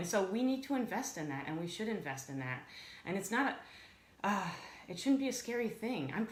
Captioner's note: sighs